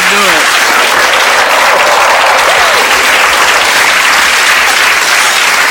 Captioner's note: audience clapping